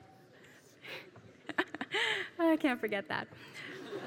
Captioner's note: laugh; laugh